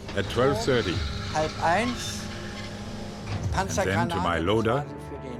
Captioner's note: turret whirring